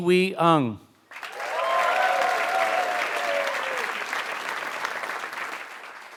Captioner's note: applause